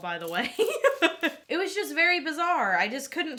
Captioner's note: laughing